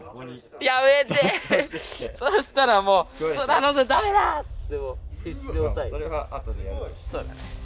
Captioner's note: laughs